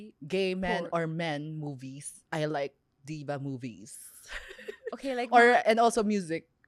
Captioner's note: laughs